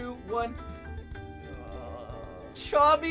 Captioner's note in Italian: geme